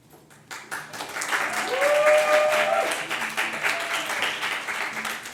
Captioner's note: audience applauds and cheers